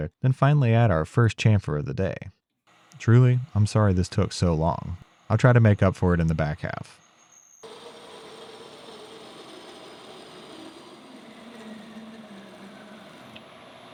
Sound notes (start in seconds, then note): 8.0 machine whirring